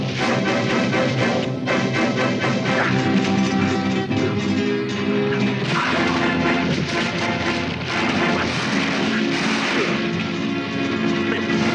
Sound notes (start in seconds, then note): 5.8 blow thuds; 8.1 dramatic music continues